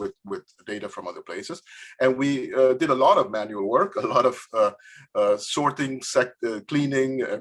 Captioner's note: laughs